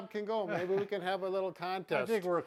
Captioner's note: laughs